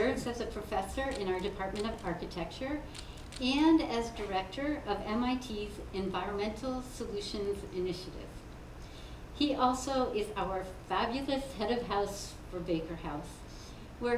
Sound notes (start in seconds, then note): none